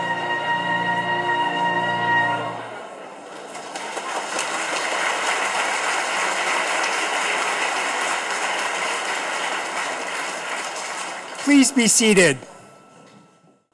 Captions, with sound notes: (audience claps) - Please be seated.